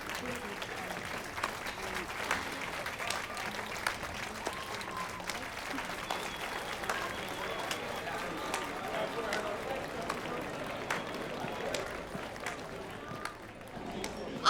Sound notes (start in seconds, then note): 0.0 clapping, cheering; 1.2 claps loudly; 4.5 clapping, cheering continues; 11.2 clapping, cheering dies down